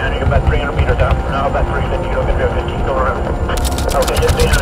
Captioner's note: gunshots firing; typewriter clicking